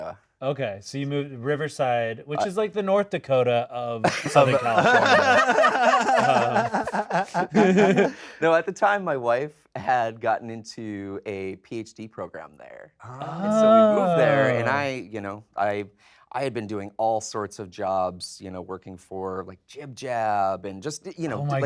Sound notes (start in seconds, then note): 4.0 all laughing